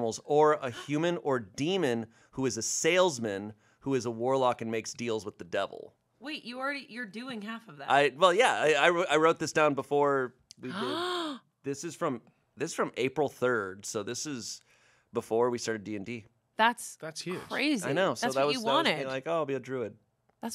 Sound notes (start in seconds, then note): 10.6 gasps